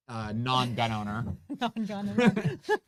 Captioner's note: both chuckle